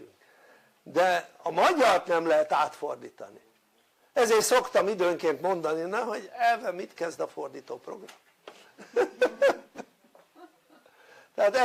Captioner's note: laughter